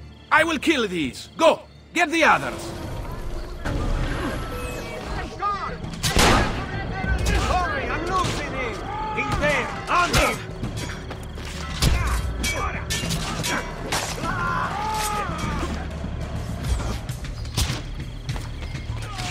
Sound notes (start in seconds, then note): 5.2 fighting sounds